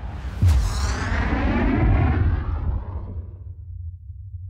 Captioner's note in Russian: звуковой эффект самолёта